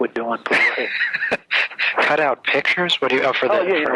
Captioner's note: laughs